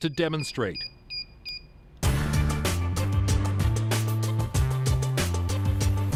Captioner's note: beeping